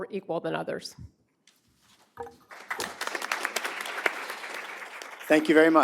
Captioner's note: applause